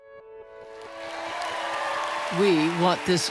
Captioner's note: cheers and applause